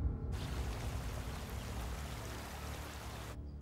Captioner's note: sound of the water; birds chirping sound